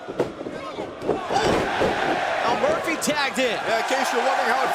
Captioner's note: crowd cheering